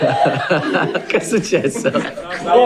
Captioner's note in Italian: risate